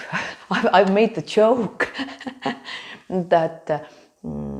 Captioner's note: gigles